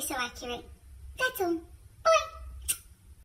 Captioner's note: smooch